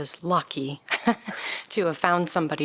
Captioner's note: laughter